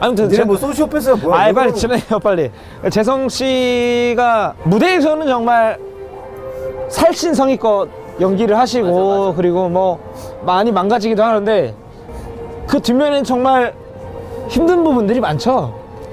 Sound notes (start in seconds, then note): 2.5 breathing